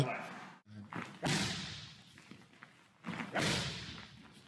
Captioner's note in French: coups de pied faisant écho